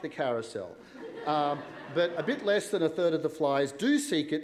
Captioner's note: laughter